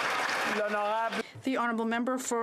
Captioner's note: speaking Alternate Language